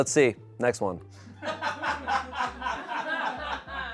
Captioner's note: people laugh